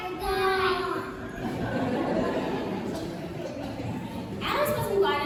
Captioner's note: laughter